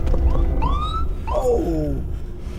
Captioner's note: police siren